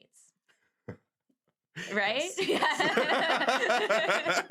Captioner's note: laughs